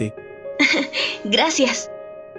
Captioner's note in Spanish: ríe suavemente